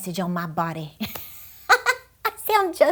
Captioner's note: laughing